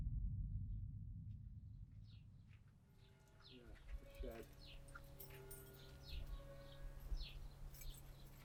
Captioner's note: birds chirping, clock chimes in the background; keys jingling then turn in the lock, door opens with a creak